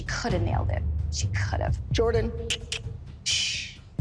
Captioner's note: clicks tongue